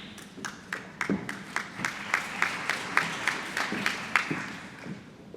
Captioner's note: applause